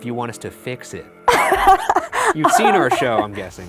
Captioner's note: laughs